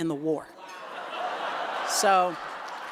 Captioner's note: laughter